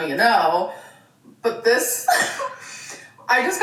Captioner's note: laughs